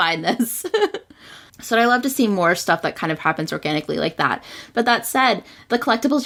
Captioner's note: laughs